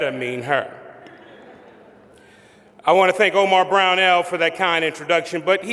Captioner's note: laughter